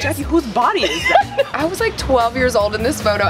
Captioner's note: laughs